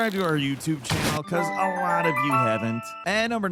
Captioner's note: sound effect chiming